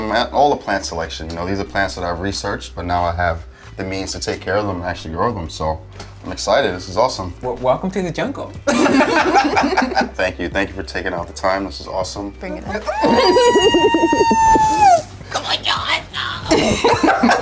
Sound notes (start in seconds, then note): 12.8 laughing; 12.8 squealing